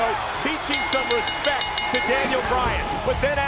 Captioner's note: bell ringing